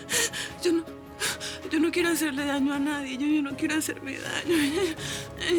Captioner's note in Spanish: Sollozos